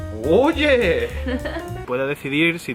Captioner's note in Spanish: ríe